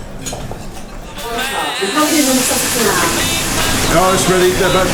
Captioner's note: kitchen noise with radio